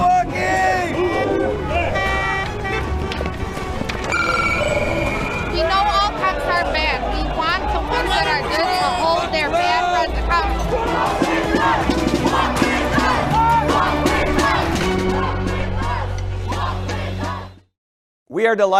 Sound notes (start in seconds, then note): 5.7 siren; 8.1 chanting